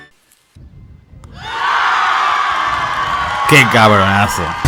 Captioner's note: cheers